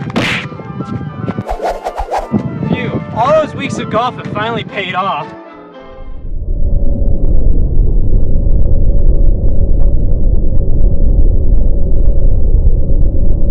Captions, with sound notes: (electronic kicking) (electronic wooshing) - Phew, all those weeks of golf have finally paid off. (ominous electronic static)